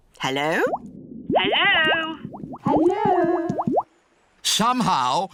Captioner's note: voice echoes